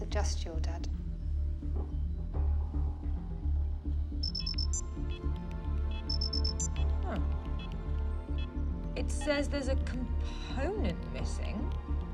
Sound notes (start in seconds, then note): 4.2 beeping